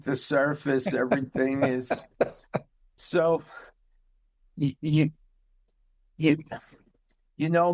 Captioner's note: laughing